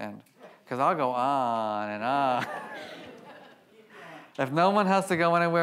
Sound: audience laughs

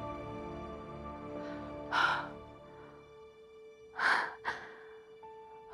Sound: taking deep breaths

